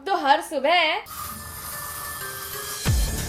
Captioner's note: ominous spraying